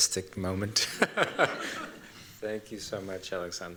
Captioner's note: laughter